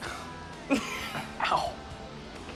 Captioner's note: laughs